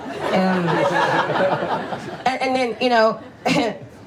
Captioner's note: audience laughs